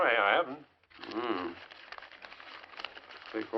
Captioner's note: hums